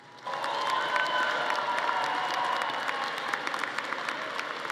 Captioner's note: audience applauding